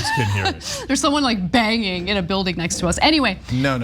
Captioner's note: laugh